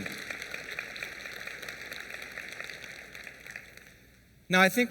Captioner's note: applause